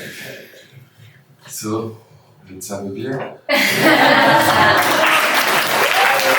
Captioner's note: final applause